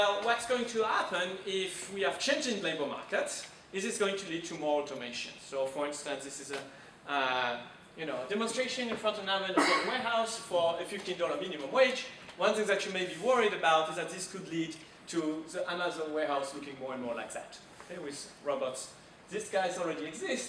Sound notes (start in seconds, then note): 9.5 man coughing